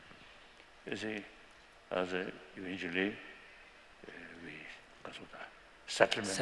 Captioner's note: non-english